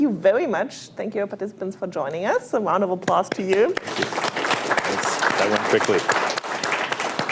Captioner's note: applause